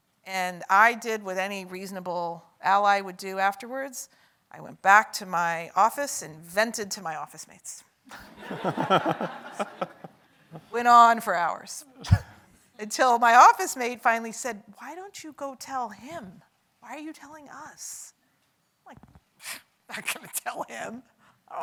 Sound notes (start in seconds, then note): 8.3 audience laughs